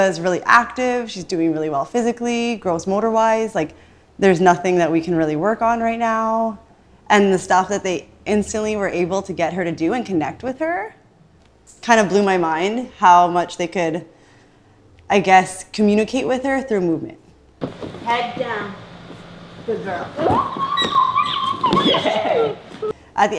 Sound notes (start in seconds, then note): 20.2 squealing